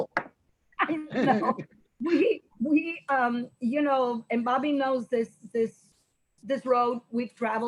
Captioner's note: laughs